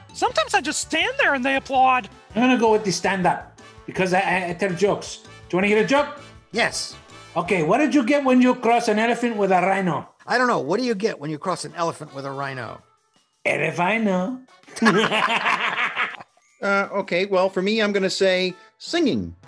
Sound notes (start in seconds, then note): 14.7 both laugh